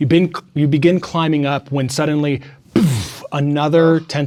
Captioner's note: imitates floor bursting